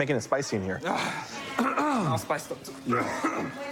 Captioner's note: coughs; clears throat